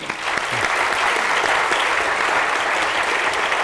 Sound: audience claps

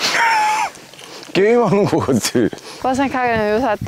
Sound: laughing

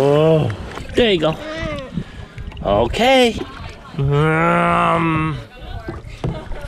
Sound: murmuring

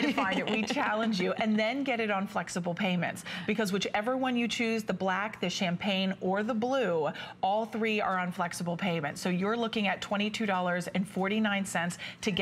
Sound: laughter

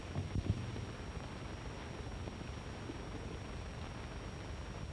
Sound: none

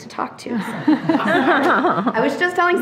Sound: trustees laughing

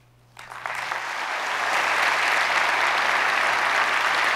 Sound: audience applauds

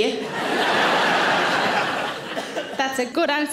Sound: audience laughs

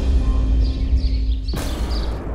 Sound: birds chirping; tense music playing

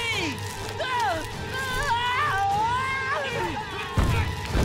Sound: screaming

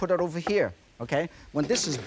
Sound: plate swishes; plate thuds softly

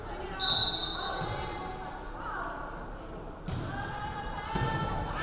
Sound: referee whistling

